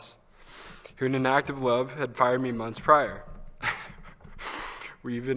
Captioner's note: laughs